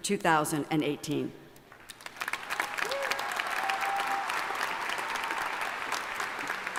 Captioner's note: applause